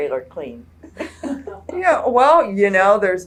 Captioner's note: laughter